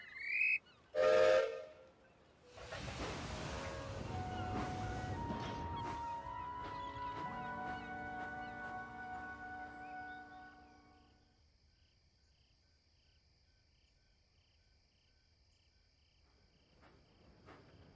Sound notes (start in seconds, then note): 0.2 guard blows whistle; 1.6 gilbert whistles